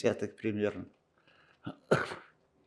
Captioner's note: coughing